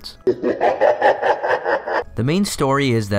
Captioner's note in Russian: зловещий смех на втором плане